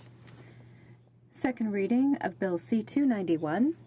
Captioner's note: speaking in french